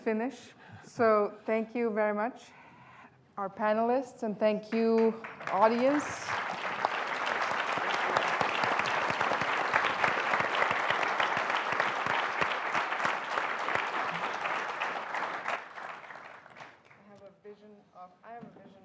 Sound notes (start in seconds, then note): 11.5 applause